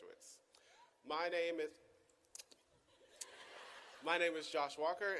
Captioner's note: audience laughing